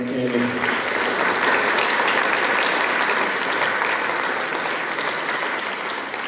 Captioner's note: applause